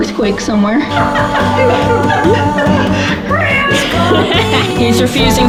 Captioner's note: laughter